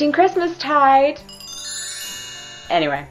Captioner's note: sparkly sound effect